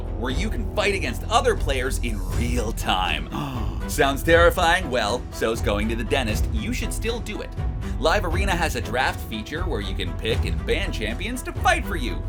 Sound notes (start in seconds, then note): 3.2 gasps